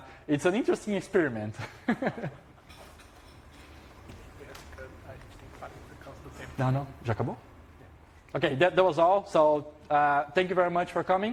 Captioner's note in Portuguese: risos